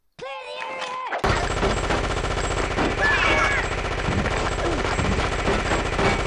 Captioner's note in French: Mitrailleuse, cris